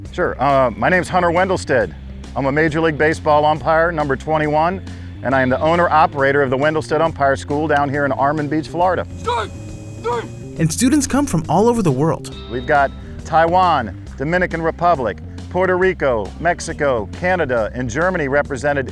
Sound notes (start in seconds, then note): 10.4 voiceover